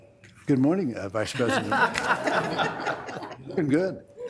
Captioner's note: members laughs